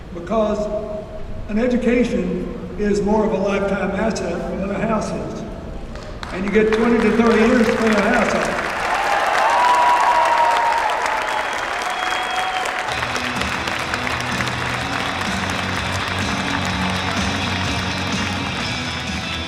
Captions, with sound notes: Because, an education, is more of a lifetime asset than a house is. And you get 20 to 30 years to pay a house off. (applause) (vibrant rock music)